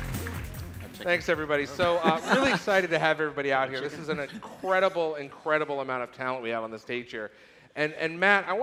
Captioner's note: applause